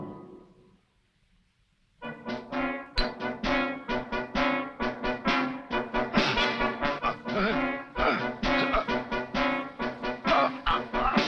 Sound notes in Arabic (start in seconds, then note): 6.9 تذمر شوجفوت